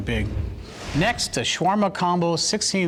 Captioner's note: whoosh